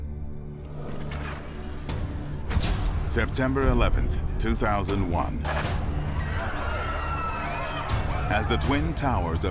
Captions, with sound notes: September 11th, 2001-- [screaming] --as the Twin Towers of Manhattan